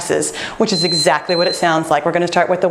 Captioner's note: timer beeping